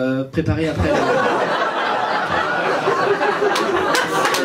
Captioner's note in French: rires public; applaus